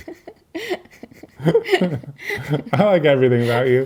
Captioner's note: laughing